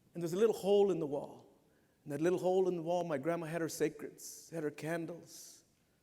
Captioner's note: none